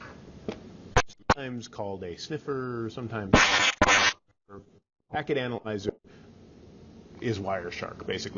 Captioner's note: mic glitching